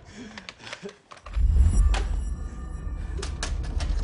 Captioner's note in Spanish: Sollozos